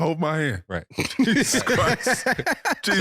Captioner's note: laughing